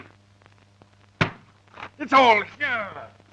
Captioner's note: banging the table